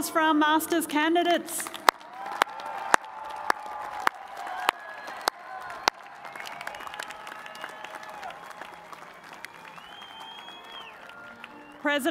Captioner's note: cheers and applause